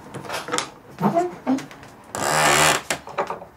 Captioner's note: squeaks